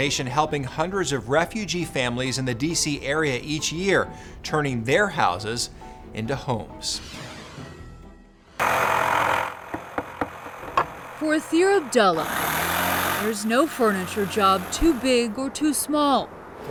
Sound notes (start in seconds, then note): 7.0 whooshing; 8.5 tool loudly whirring; 9.0 hammer banging